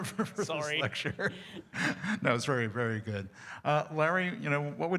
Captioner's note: laughter